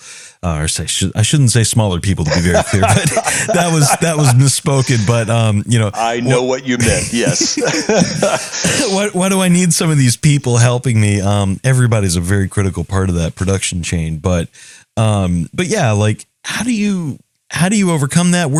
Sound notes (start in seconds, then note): 2.7 laugh; 9.3 laugh